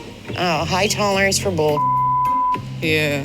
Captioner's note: beep